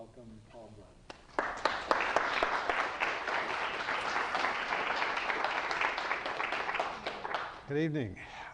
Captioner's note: applause